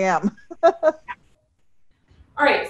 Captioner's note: laughs